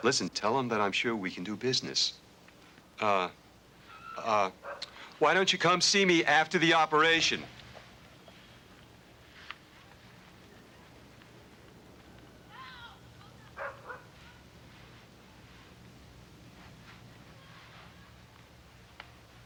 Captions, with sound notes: Listen, tell him that I'm sure we can do business. Why don't you come see me after the operation. (dog barking) (kids shouting)